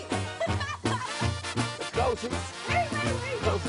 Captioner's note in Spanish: Risas